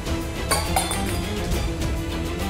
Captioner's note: clanks